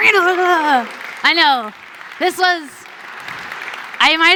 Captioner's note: applause